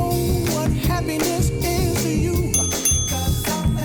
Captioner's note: ding ding!